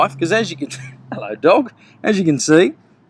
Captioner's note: laughs